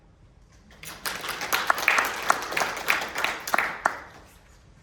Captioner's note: audience applauding